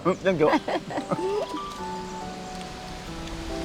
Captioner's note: both laughing